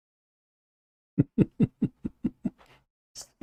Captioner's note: Ketawa